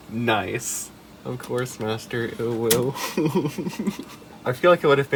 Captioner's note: giggles